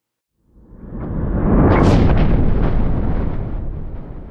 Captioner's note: thunder